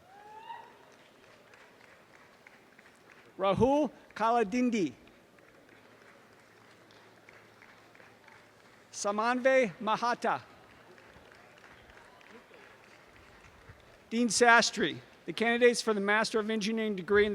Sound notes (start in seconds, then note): 0.0 audience cheering and applause; 5.2 audience applause